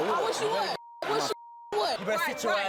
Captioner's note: beeps